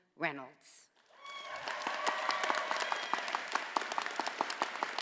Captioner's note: all applauding